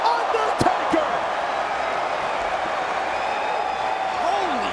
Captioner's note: audience cheers